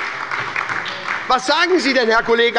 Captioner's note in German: Beifall bei der SPD